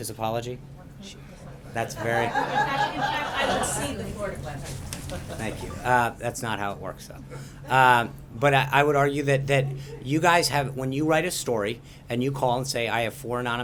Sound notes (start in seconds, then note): 1.8 laughter